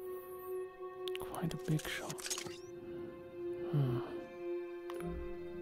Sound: whispered

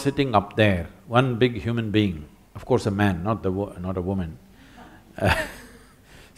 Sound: laughs

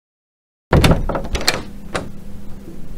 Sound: door opening

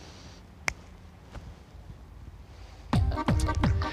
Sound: clicks fingers

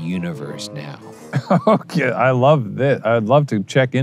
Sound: laughs

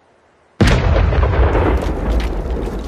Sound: explosion

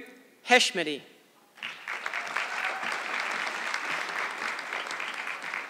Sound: audience clapping

